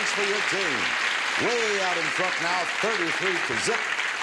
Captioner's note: audience applauds